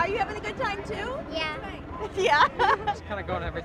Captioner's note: laughs